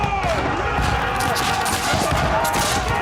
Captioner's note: battle horn playing; men yelling